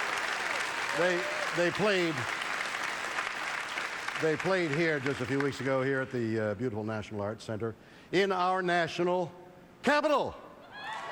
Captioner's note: applause